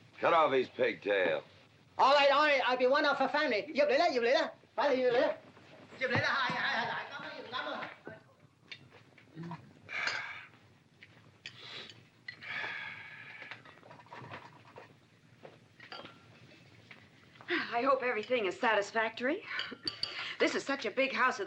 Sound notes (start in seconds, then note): 3.8 yammering in Cantonese; 9.4 dinner sounds